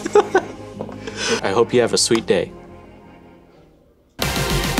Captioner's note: laughs